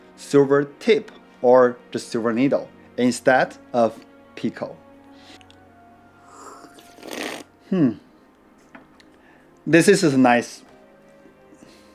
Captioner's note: slurping again